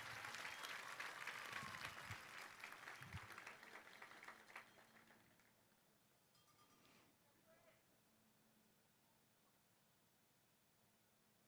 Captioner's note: cheering